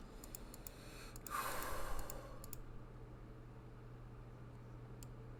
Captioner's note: breathes out